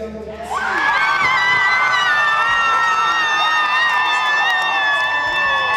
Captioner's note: cheering